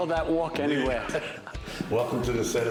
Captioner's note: laughter